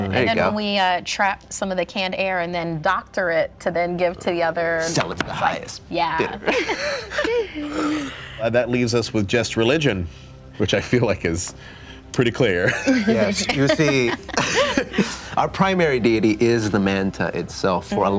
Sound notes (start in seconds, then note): 6.4 light laughter; 12.6 group laughter